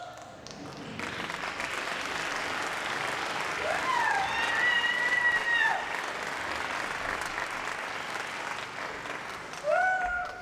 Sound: applause

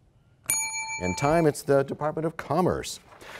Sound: bell rings, time expires

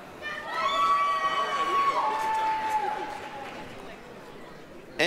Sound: applause, cheering

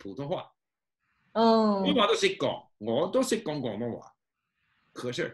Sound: in Cantonese

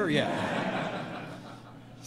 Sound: laughter

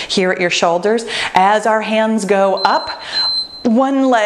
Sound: timer beeps

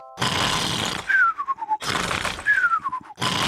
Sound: sighs happily; george snores loudly

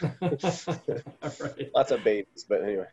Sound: laughing

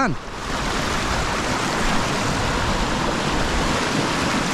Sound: loud water rushing

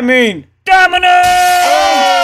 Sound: glass break

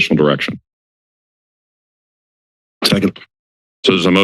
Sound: silence

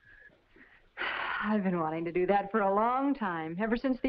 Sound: sighs

